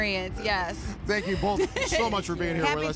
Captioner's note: laughter